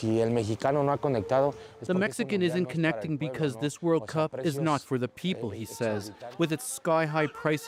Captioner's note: speaking alternate language